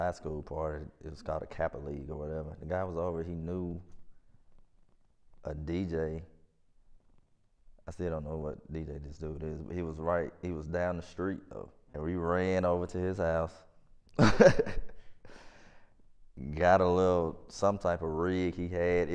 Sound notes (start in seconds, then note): 14.2 laughs